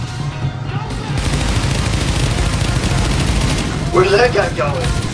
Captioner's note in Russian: беглый огонь